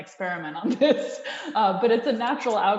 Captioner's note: laughs